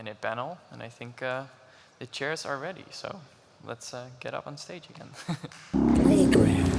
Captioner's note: chuckles; applause